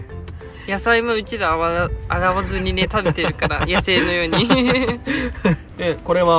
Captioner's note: laughs